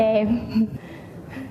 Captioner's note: chuckles